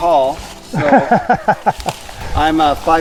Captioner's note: laughing